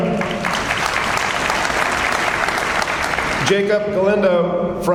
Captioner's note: audience applauds